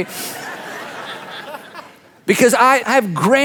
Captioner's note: audience laughs